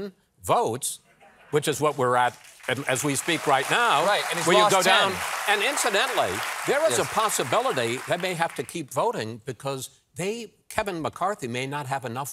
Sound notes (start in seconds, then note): 4.5 applause